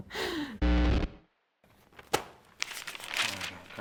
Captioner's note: static